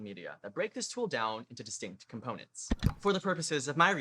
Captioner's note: click